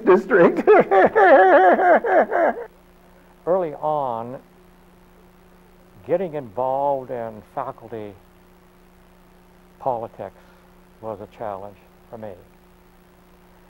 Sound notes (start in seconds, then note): 3.1 laughs